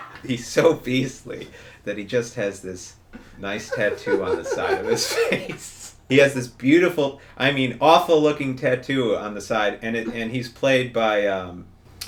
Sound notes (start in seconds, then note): 3.5 both laughing